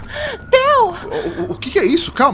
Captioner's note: gasping